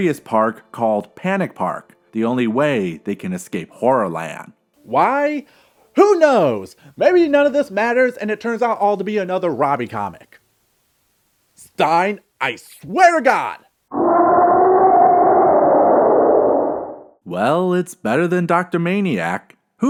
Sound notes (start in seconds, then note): 13.9 creepy moaning